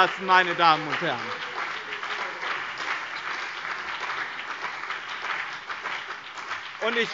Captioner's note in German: Beifall BÜNDNIS 90/DIE GRÜNEN und CDU - Zurufe DIE LINKE